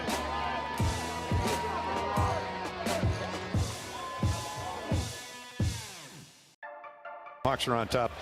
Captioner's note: indistinct chatter